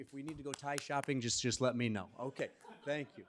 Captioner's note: audience chuckling